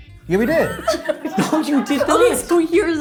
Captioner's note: laughs